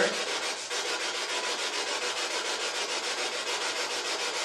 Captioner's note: scratching